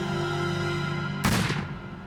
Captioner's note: gunfire